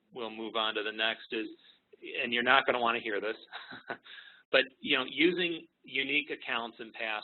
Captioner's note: chuckle